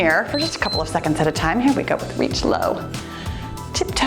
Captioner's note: timer beeps